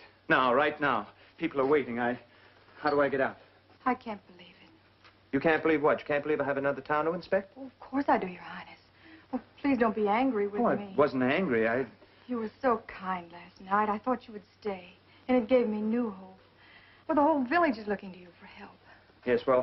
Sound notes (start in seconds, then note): none